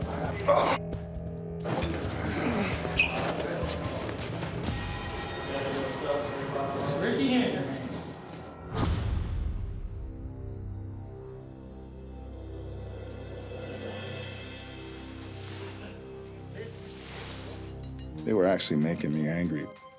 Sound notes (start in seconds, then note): 4.0 cymbal hit; 8.7 slam; 13.6 cymbal roll